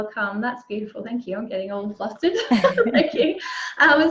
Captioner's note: laughs